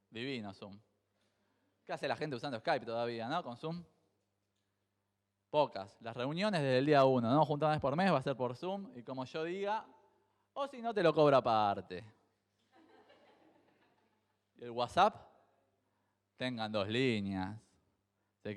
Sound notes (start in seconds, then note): 12.7 crowd laughs